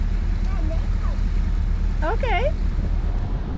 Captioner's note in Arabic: يغمغم